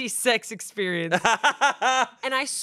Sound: laughs

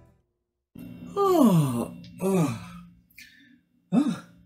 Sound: yawning

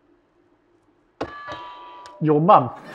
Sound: doorbell

